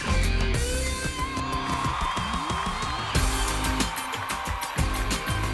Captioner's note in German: Publikum jubelt im Hintergrund